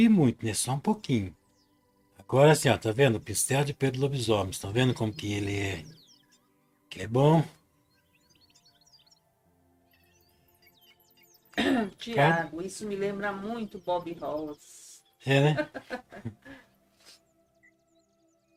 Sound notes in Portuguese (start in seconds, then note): 7.4 limpando a garganta; 15.3 risadas